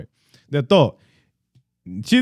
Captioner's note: speaking In Foreign Language